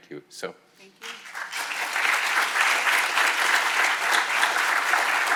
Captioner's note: audience applauding